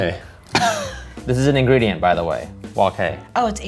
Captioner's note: laughs